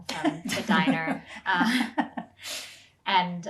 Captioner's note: laughing